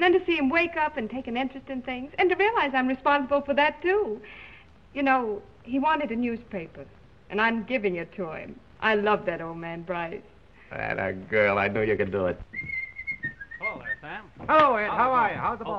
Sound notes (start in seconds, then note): 12.5 whistling